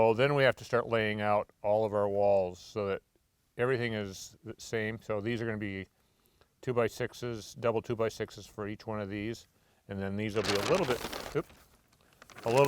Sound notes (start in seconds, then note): none